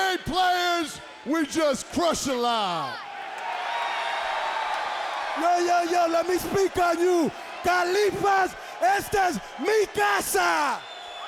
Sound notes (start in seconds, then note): 3.6 audience cheers; 8.4 speaks Spanish